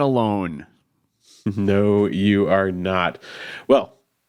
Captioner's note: chuckles